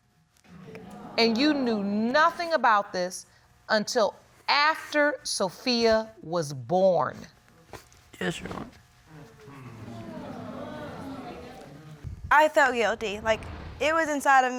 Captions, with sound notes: And you knew nothing about this until after Sophia was born? Yes, Your Honor. [audience exclaims] I felt guilty. Like, it was inside of me